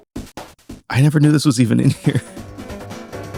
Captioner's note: laughing